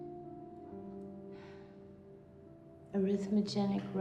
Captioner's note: sighs softly